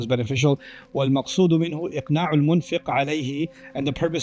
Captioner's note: Arabic